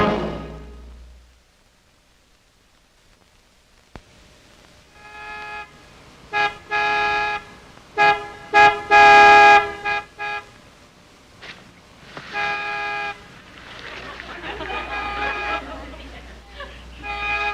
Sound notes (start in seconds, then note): 7.9 car horn honking